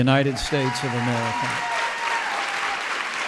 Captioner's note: applause